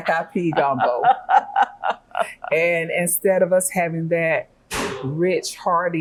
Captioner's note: laughing